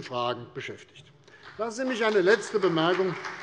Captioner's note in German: Beifall CDU